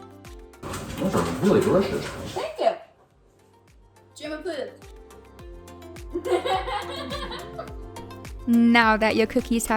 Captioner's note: laugh